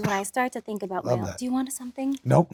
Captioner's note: coughs